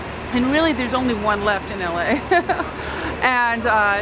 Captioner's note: laughing